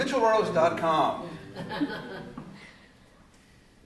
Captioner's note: laughter